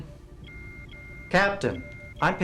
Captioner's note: alarm